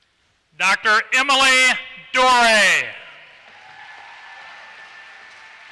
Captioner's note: applause